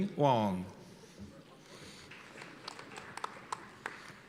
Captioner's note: applause